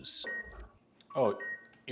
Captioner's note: phone beeping